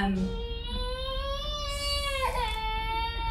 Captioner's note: baby crying